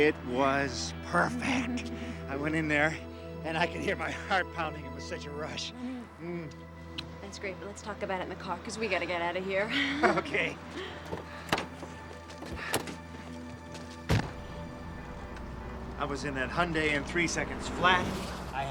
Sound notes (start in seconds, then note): 6.4 lips smacking